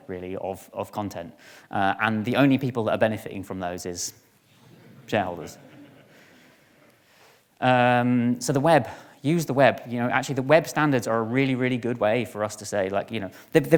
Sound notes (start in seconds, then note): 5.3 audience laughing